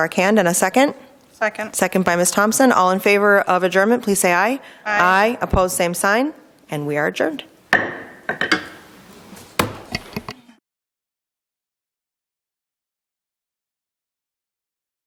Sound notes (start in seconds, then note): 7.7 gavel taps